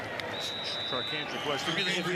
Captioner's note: whistle